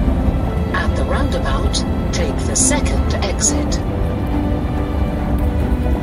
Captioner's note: GPS navigation